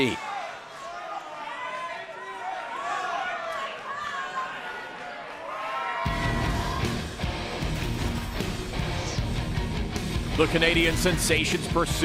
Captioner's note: crowd chatter